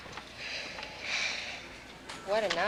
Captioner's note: girls sighing